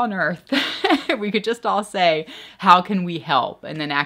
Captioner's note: laughs